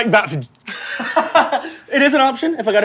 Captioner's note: laughs